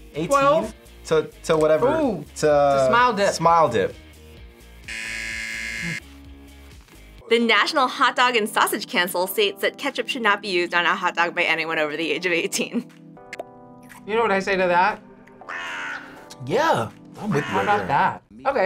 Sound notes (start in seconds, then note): 4.8 buzzer rings; 15.4 crow caws